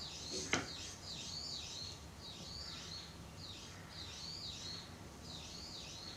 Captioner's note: brown-eared bulbuls are chirping